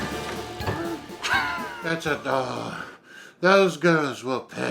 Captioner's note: Emma laughs